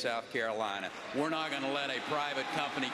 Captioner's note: applause